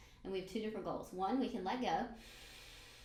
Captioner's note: breathes in